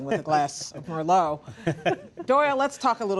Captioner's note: laughter